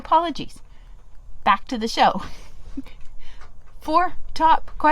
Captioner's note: laughing